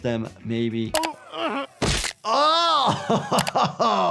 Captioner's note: grunting; laughing